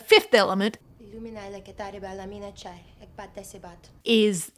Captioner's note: Leeloo language